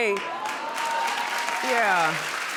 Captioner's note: applauding